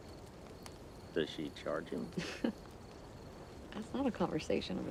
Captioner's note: Joe giggles